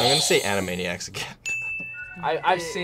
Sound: buzzer rings; bell rings

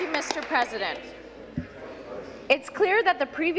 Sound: applause

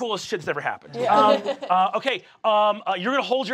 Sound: chuckling

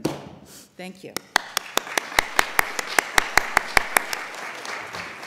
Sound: applause

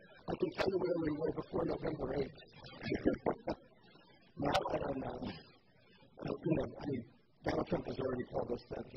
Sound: laughs

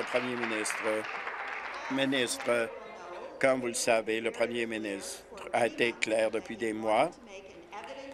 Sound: applause

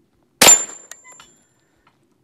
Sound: bang

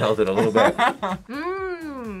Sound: laughs

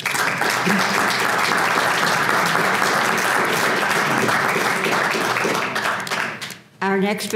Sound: applause

